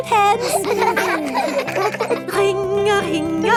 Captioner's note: giggling